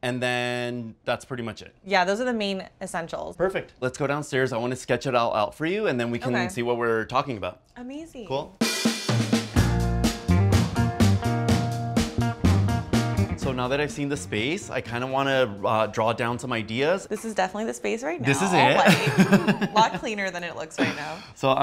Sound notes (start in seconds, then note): 18.2 laughs